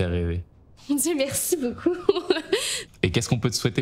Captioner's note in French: rire